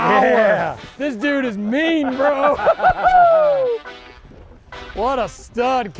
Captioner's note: both laughing